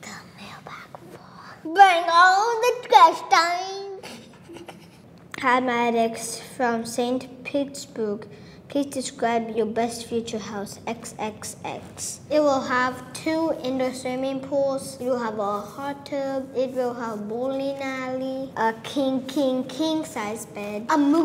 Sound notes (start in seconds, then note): 2.4 in a silly voice; 4.0 laughs